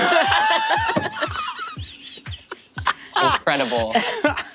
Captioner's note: cast laughing breathlessly